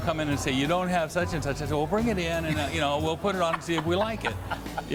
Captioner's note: laughs